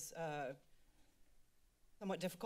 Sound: silence

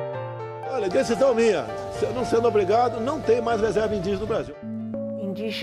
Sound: speaking Portuguese

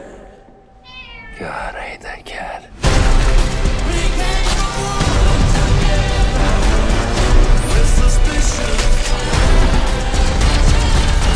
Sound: cat Meows

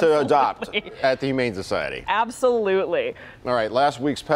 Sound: laughter

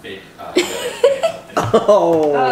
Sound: laughing

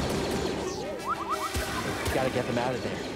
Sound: urgent beeping

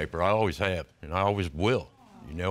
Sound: audience awes

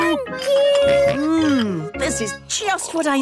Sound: snorts

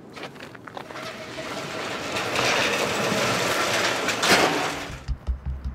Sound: gate closes

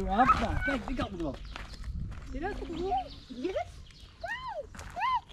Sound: speaks Dutch

